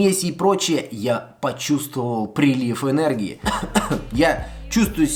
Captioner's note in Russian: кашель